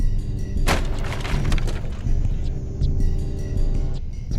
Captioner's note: thudding